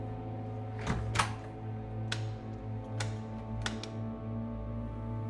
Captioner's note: light switch clicking